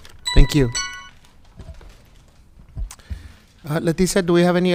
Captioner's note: timer beeping